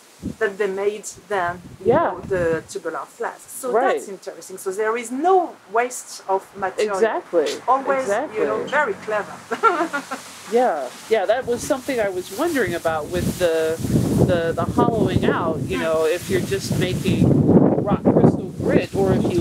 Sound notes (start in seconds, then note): 9.4 laughter